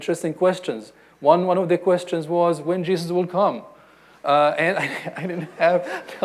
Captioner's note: laughs